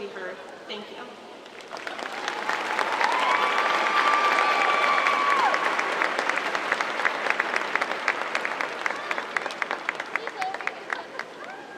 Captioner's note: applause